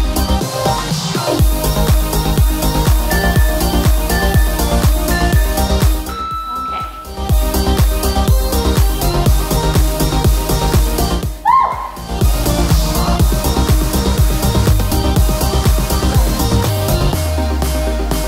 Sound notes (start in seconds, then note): 3.0 alarm beeping